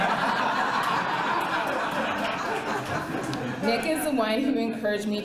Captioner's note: laughter